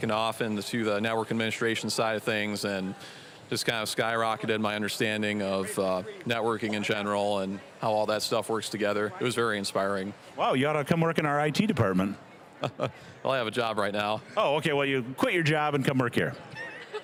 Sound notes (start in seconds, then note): 12.6 chuckling